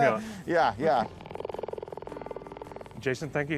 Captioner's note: cheetah purring